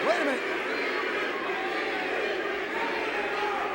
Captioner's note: crowd cheering